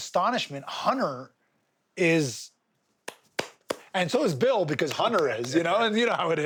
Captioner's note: claps